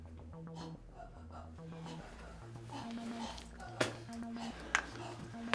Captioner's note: person grunting